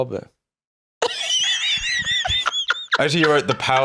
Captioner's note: laughs